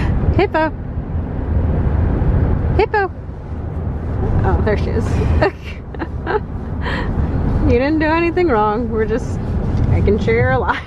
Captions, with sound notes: Hippo! Hippo! Oh there she is. (Laughter) You didn't do anything wrong. We're just making sure you're alive.